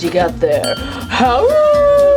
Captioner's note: ding; howling